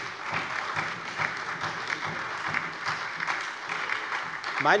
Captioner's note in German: Beifall bei der FDP sowie bei Abgeordneten der SPD und der LINKEN